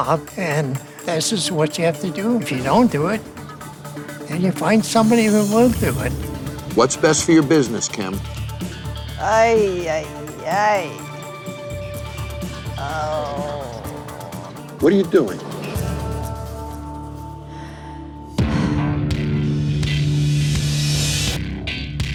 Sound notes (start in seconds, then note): 12.8 groans; 17.2 sighs